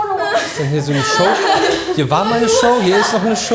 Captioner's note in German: gelächter